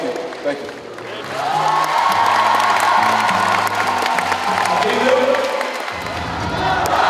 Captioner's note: applauds the fans as always